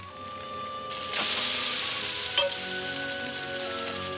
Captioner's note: sizzling